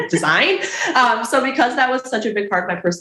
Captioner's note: chuckles